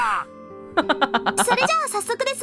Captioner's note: chuckles